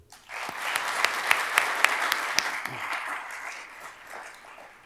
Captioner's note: attendees applauding